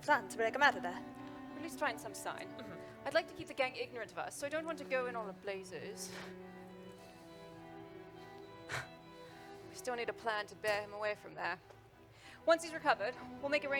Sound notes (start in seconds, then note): 7.9 scoffs